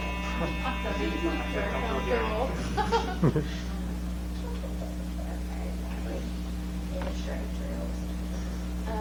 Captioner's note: laughter